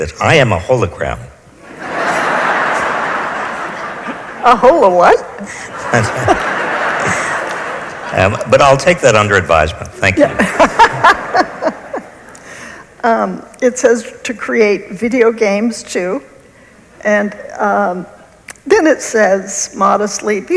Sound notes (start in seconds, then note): 1.6 audience laughs; 10.3 laughs